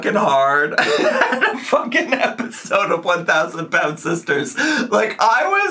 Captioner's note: laughs